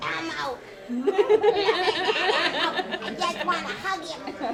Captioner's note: laughing